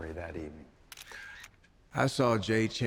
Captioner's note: camera click sound